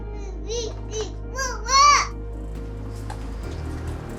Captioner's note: babbling